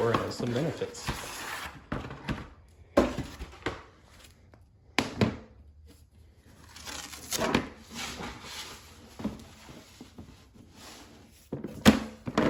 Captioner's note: cardboard sounds